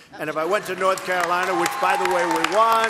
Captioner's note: laughter and applause